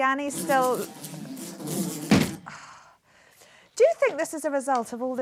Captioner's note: buzzing